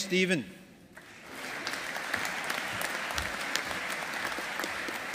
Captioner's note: audience applauding